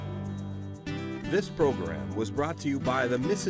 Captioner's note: voiceover